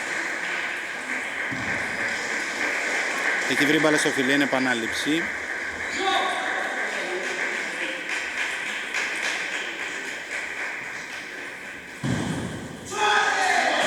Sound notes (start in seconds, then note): 7.5 applause